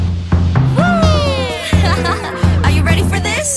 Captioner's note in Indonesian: ketawa